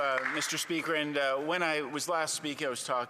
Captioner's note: some Applause